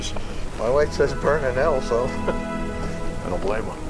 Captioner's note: chuckles